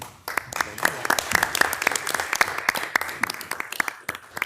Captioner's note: participants clapping